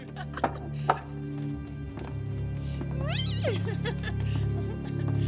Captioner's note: loud giggling and screeching